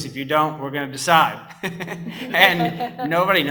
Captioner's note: laughs